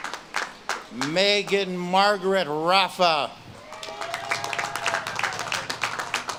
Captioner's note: audience claps and cheers